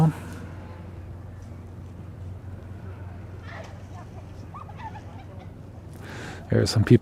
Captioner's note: distant chatter